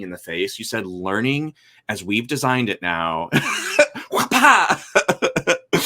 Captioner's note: laughs